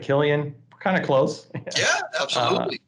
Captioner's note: laughs